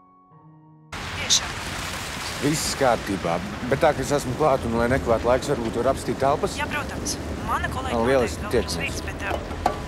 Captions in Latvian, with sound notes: [Zanes balss telefonā] ...tiešām atvainojos... Viss kārtībā! Bet tā kā esmu klāt un lai nekavētu laiku Es varbūt varu apskatīt telpas? [sievietes balss telefonā] Jā, protams! Mana kolēģe vēl ir uz vietas, bet... Lieliski!